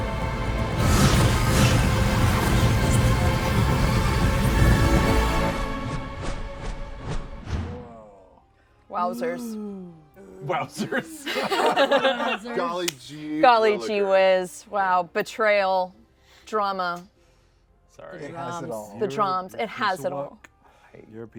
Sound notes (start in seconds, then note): 0.0 ambient music intensifies; 0.7 ominous vocalizations; 5.9 panels swooshing; 10.4 laughs